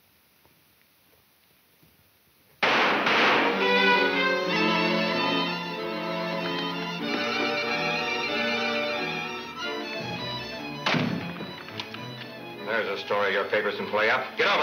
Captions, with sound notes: (gun fires) (suspenseful music) There's a story your papers can play up. Get over there!